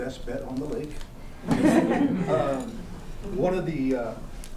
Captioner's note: laughter